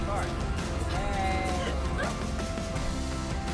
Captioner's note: cheers and laughter